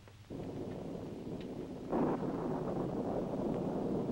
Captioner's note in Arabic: هدير الرعد